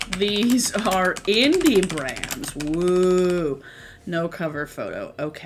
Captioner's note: typing